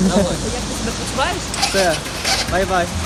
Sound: engine sound

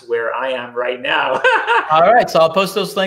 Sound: laughing

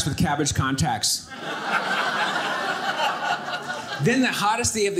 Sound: audience laughing

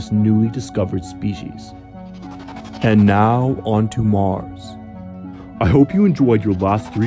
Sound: space warp noise

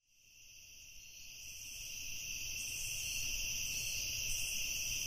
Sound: crickets chirping

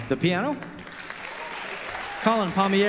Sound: audience applause

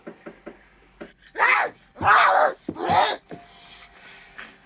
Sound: growls

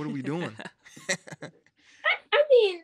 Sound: chuckles

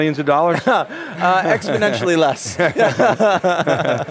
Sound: laughs

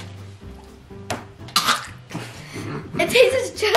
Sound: coughs

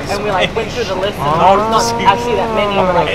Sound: Italian

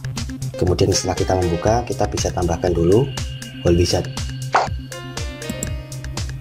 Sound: click

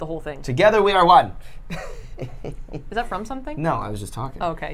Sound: laughs

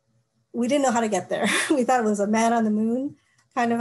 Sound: laughter

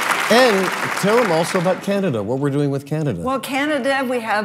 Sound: applauds

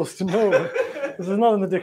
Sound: laughter

